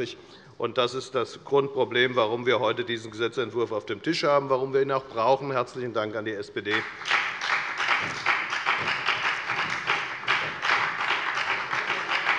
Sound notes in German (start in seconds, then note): 6.7 Beifall bei der FDP sowie bei Abgeordneten der SPD